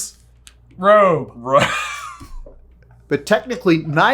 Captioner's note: laughing